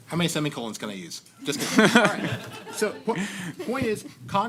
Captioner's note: laughter